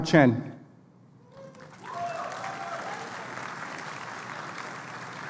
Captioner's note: applause